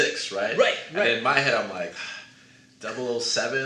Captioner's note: sighs